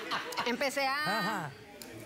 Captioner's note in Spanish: risas